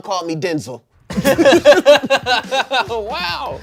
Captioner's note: everyone laughs